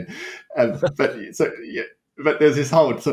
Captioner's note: laughter